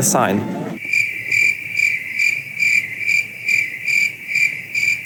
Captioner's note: cricket noises